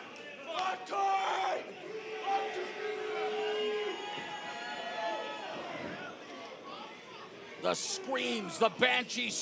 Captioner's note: crowd chatter